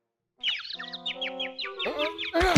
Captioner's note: birds chirping; grunt